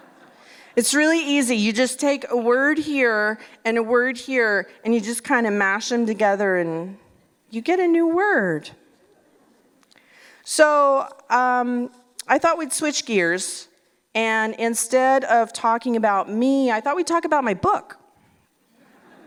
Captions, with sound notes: It's really easy, you just take a word here and a word here and you just kind of mash them together and you get a new word. So I thought we'd switch gears and instead of talking about me I thought we'd talk about my book. [Laughter]